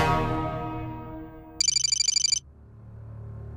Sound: typing sound

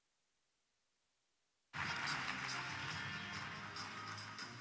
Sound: applause

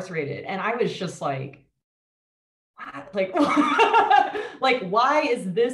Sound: laughs

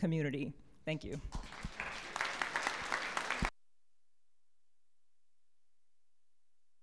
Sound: applause

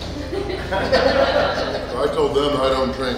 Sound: hahaha

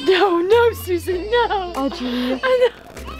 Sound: crying

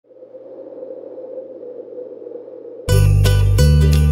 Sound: wind blowing

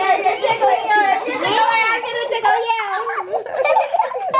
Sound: laughter

